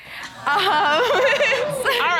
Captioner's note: chuckles